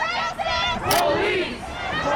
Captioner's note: crowd